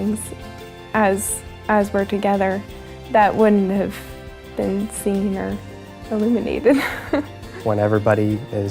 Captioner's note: chuckles